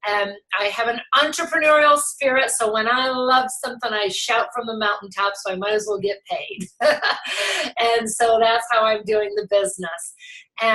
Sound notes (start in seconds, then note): 6.7 laughs